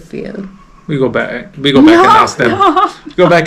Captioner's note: laughing